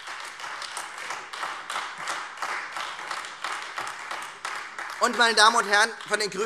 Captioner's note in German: Beifall Freie Demokraten und AfD